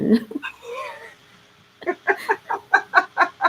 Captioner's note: laughing